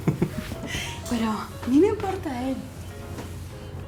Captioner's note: speaking spanish